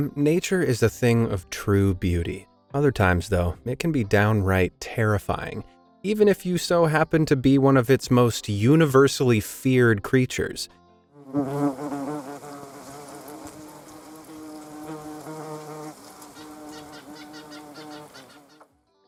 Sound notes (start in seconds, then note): 11.2 wasp buzzing